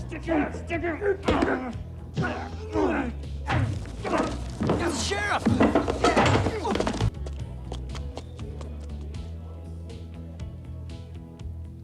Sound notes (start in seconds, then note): 6.1 gentle upbeat music; 7.1 crowd cheering; 7.8 gentle upbeat music